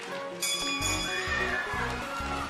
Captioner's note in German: Klingeln